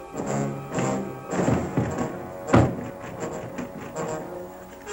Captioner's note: rattling